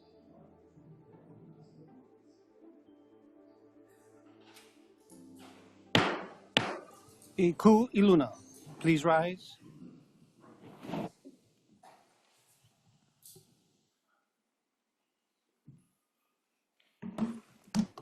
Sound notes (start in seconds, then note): 6.0 gavel bangs twice